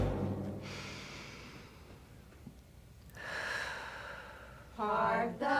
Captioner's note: quirky music; inhales, then exhales